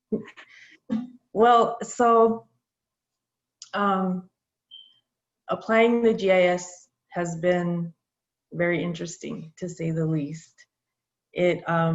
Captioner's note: chuckles